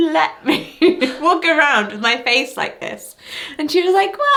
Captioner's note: laughs